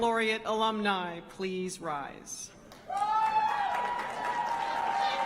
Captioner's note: applause